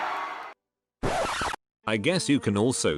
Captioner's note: audience goes wild with cheers; record scratch